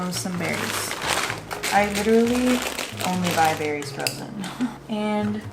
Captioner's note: laughs